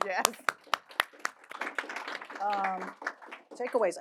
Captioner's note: audience applauding